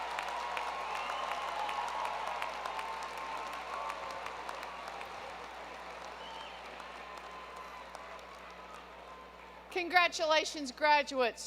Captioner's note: applause